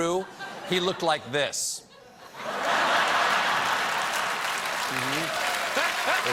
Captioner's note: applause; laughter; cheers